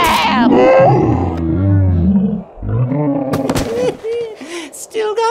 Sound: growls

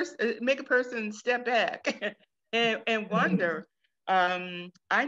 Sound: chuckles

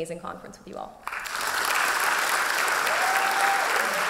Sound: applause

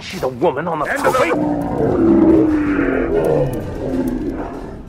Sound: enemies groaning

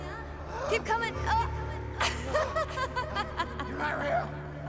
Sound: laughs

